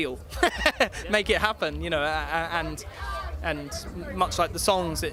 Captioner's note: laughs